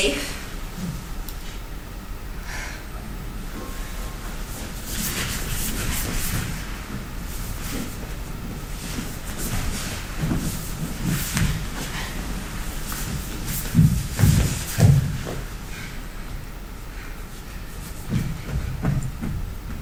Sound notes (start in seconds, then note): 8.2 dancer shuffling